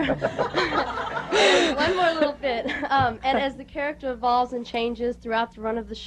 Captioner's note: laughter